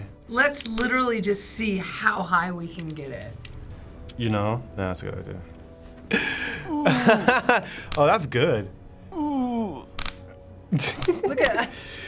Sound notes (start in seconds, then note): 6.1 laughing; 9.0 moaning; 10.7 laughing